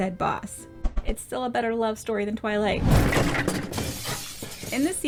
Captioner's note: whoosh, junk crash, glass breaking